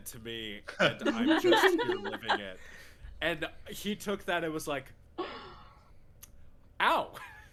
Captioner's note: laughter